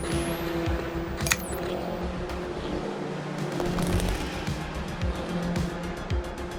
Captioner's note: upbeat music continues; car engine roaring